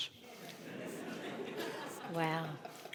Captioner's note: audience laughing